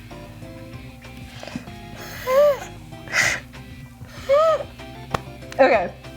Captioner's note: embarrassed Wheezing